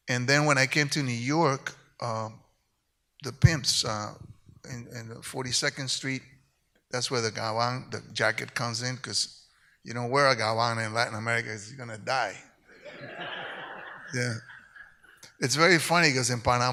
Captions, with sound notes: And when I came to New York, the pimps on 42nd Street. That's where the (speaks in Spanish) the jacket comes in because you wear a (speaks in Spanish) in Latin America, you're gonna die. (audience laughs) Yeah. It's very funny because in Panama